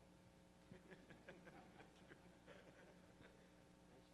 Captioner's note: laughter